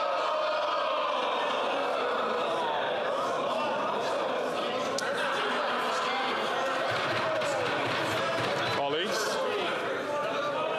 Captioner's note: chatter